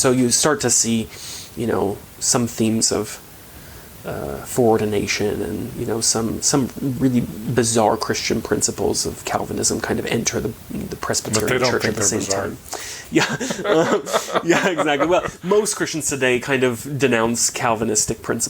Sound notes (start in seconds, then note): 13.0 chuckling